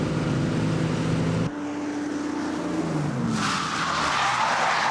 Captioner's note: tires squealing